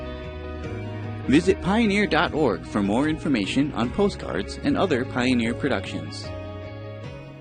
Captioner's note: soft rock music; voiceover